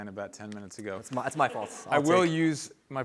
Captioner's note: laughter